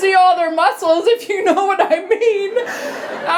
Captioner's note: laughter